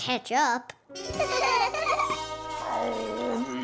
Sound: laughing

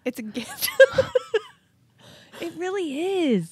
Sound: chuckling

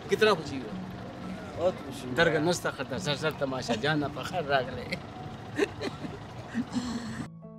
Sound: speaking in Pushto

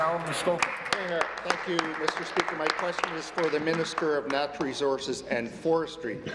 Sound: applause

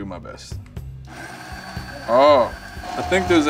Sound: quiet motor whirring

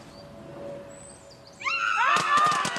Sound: shrieking

